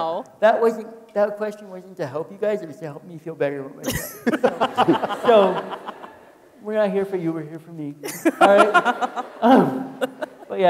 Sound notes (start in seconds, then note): 5.5 people laughing